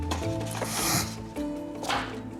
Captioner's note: snorts